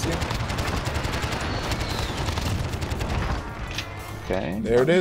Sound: gunshot sounds

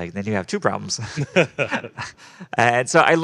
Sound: group laughing

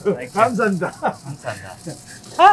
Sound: speaking in Korean

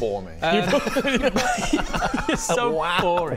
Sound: mortally offended giggles

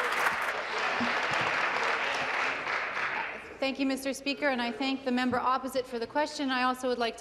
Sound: applause

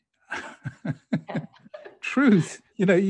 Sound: both laughing

